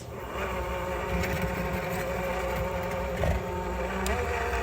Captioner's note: mixer whirring